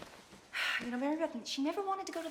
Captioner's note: sighs